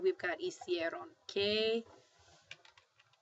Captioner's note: spanish; speaking spanish